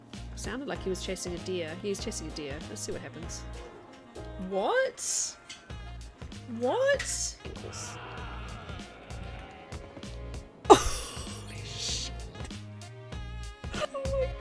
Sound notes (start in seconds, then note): 7.4 horrific doe dying sound